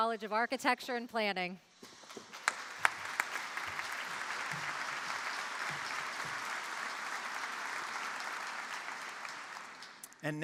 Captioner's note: applause